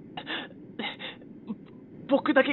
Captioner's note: cough